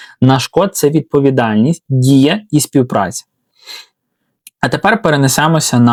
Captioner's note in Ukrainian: сопіння